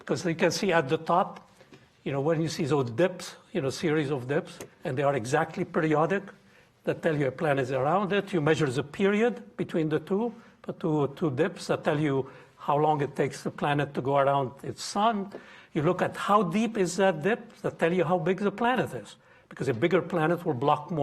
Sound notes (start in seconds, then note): none